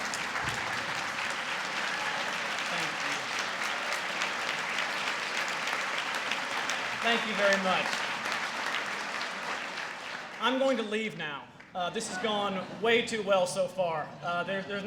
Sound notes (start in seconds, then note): 4.3 applause; 8.8 applause